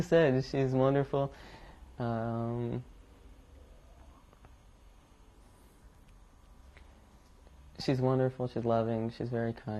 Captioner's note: pauses for 7 seconds